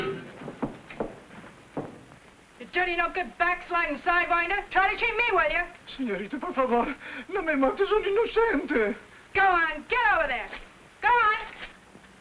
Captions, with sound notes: - You dirty, no good, backsliding sidewinder, try to cheat me, will you? - Senorita, por favor. (Juan speaking in foreign language) - Go on get over there! Go on!